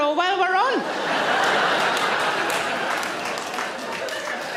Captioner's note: audience laughs